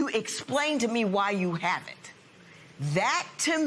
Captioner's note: none